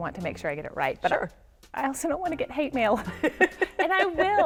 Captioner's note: laughs